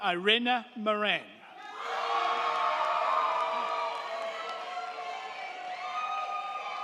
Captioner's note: crowd cheering; crowd clapping